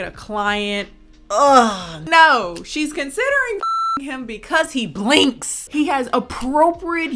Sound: beep

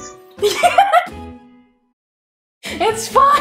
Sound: laughing

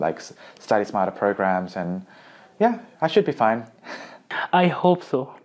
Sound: laughs

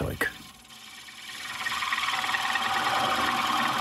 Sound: whirring

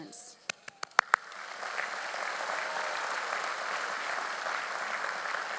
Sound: audience applauds; claps

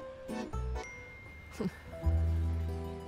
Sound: cell phone beeps

